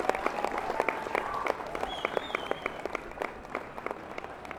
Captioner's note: cheering subsides